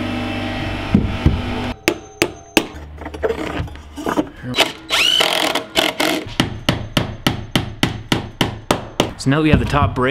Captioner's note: hammering sounds